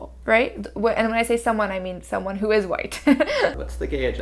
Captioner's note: laughing